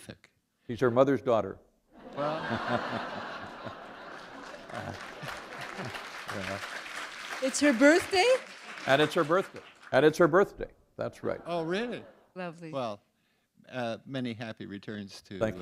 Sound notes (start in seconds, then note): 2.0 laughter; 3.4 applause